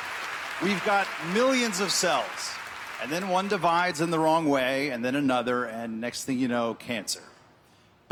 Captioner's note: applause